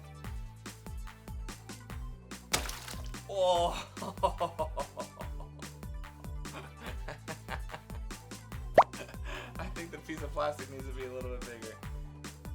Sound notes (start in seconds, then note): 2.5 water splashes; 3.3 groans and laughs